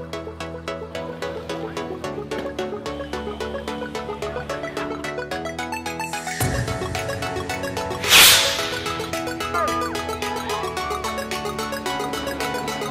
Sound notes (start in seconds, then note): 7.8 rocket whooshing; 9.7 children hollering